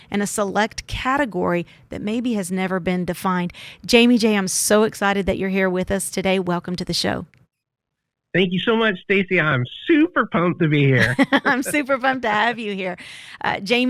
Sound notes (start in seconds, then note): 10.1 laughs